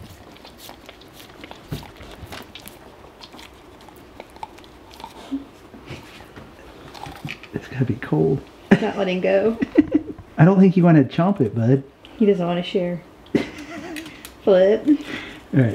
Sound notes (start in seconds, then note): 9.5 laughing; 13.3 laughing